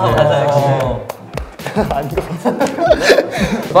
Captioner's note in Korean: 기립 박수